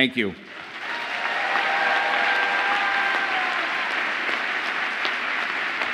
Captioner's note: audience applauds and cheers